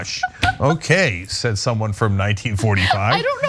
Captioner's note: laugh